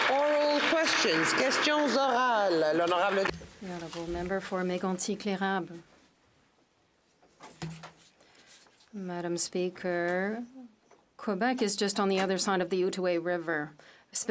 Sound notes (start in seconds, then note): 1.6 some Applause; 5.7 speaking French